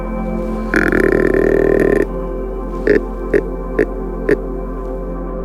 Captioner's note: deer caller grunting